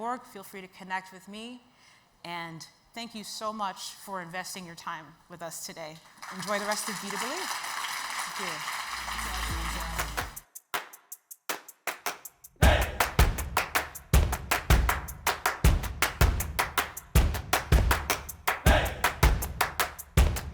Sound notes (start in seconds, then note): 6.1 audience applauds; 9.2 bright music